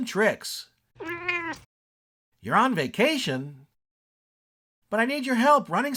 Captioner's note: meow